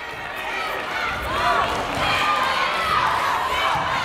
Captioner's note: clapping